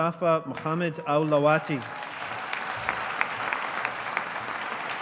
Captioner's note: audience applauding